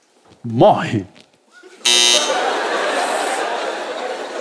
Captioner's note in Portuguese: campainha